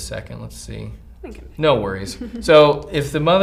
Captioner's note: giggles